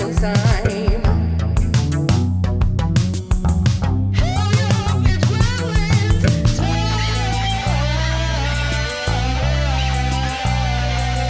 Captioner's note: echoing